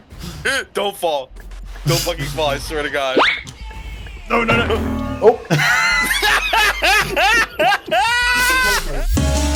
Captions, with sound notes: Don't fall... don't heckin' fall, I swear to God! [Cartoon Wham SFX] Oh, no no no--! (Laughter)